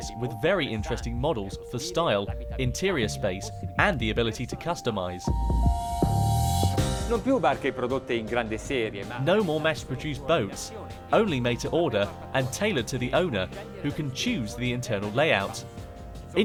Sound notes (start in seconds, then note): 5.4 pleasant music; 7.1 speaking foreign language